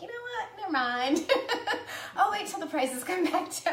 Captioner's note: laughs